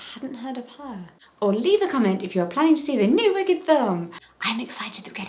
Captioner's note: whisper